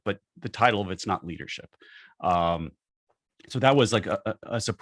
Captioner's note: none